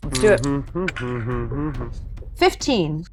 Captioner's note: dice clinks